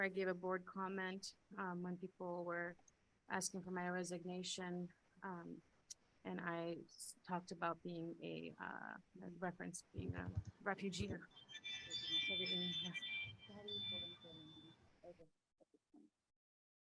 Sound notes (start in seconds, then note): 11.6 phone ringing; 13.5 people chattering